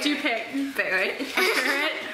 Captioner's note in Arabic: يضحك